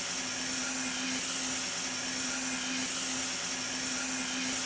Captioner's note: saw blade whirring